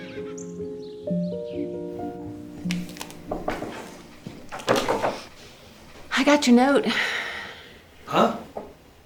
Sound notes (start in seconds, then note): 3.2 hand knocking